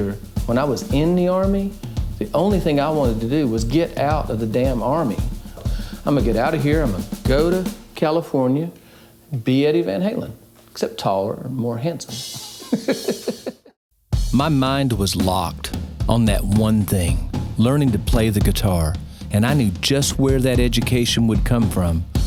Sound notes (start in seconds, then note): 12.1 laughs